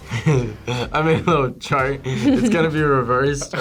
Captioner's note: laughs